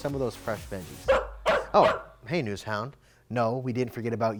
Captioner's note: dog barking